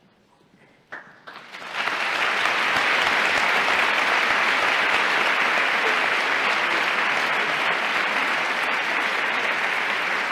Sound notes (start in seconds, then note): 0.9 applause